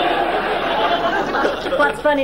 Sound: audience laughing

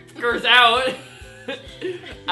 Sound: laughs

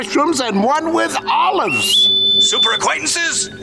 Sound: whistling

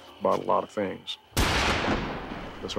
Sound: gunshot

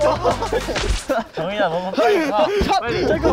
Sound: bonk

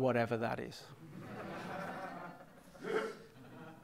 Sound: laughter

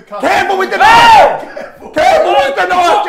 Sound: yells

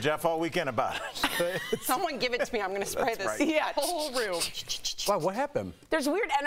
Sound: laughter

